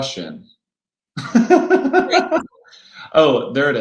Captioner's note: laughing